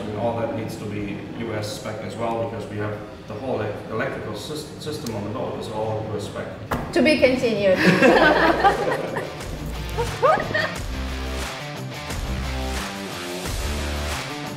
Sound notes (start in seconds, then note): 7.9 everyone laughs; 8.0 soft rock music